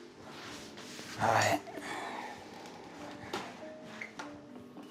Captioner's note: sighs